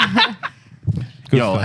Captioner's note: laughing